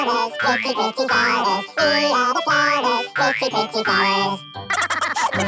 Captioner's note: laughter